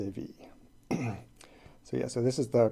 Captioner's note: clears throat